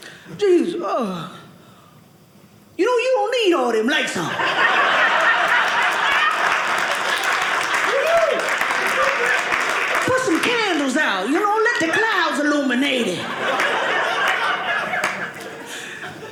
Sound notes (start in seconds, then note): 4.5 audience cheering; 12.9 audience laughing